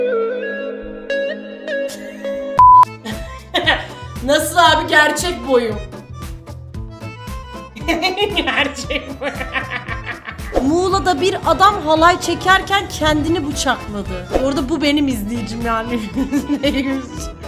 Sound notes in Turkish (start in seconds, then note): 7.8 kahkaha